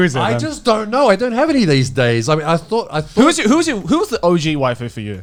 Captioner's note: foreign language